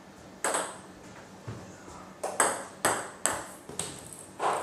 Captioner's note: balls ping pong hitting continues